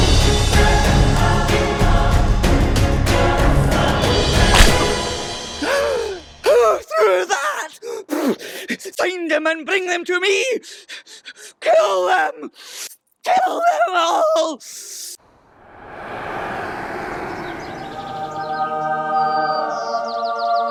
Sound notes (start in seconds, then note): 7.7 gasps